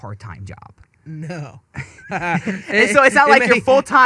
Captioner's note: laughing